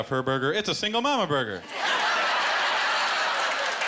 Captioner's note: laughter